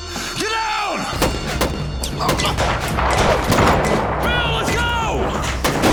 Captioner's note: tense music; gunshots